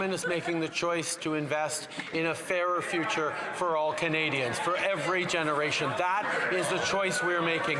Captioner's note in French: voix de l'interprète